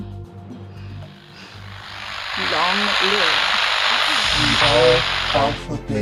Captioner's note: static fades in